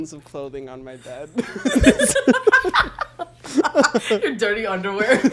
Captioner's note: both laugh